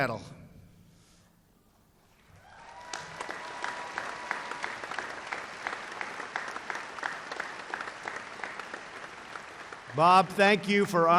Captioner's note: applause